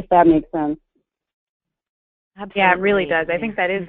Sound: voiceover

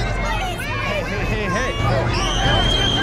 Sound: scream

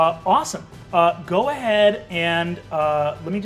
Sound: none

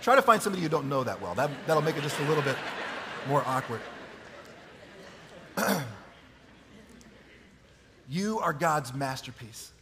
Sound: chuckling; laughing

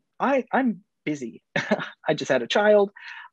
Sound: chuckles

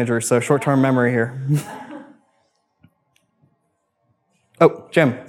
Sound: woman laughs

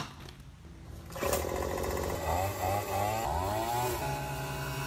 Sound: machine whirring

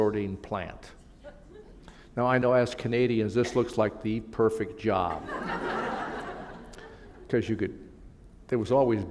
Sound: laughter

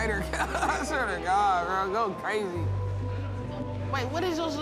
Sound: laughs

